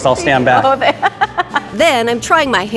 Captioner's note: laughing